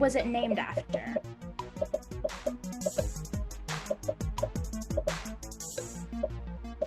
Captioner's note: upbeat music; popping